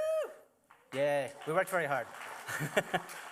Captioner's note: applause; chuckles